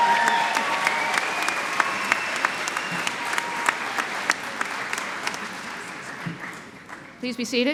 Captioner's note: cheering and Applause